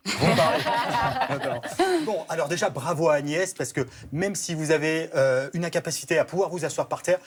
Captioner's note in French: rires